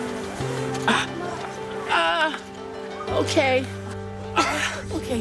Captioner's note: groans